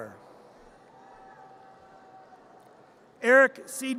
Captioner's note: audience cheers